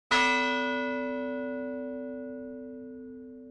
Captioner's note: bell ringing